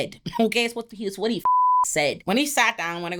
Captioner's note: beep